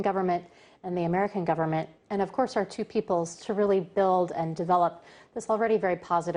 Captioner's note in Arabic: تتحدث الإنجليزية